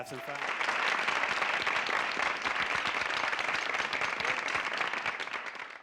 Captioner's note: applause